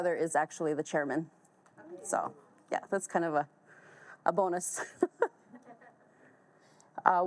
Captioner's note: chuckles